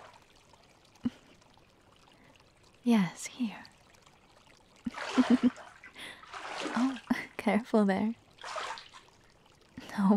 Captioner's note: chuckles